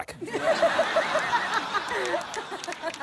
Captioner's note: laughter